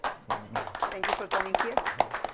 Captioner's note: class applauding